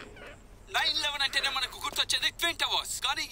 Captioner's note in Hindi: रेडियो बज रहा है